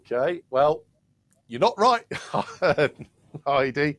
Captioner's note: laughs